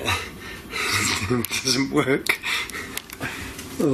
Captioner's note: laughing